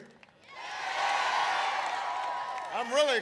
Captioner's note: applause